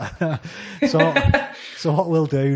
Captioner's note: laughs